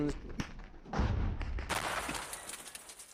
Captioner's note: gunfire and explosions